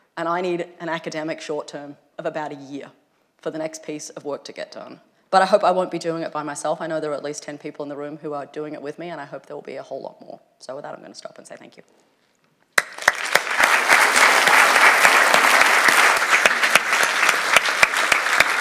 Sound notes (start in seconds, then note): 12.7 applause